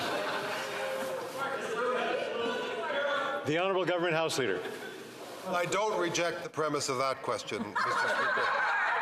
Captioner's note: shouting